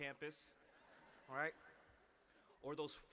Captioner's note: laughter